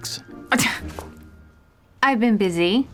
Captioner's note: scoffs